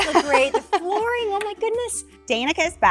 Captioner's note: laughing